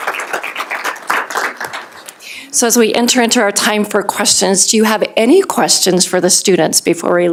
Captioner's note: applause